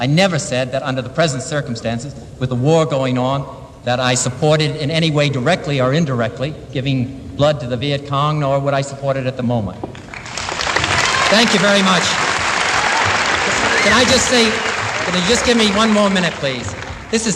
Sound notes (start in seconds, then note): 10.4 applause